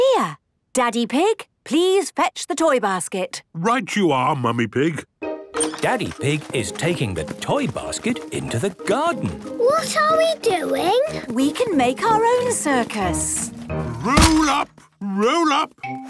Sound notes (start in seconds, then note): none